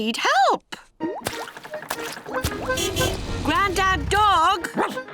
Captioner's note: car horn honking; barks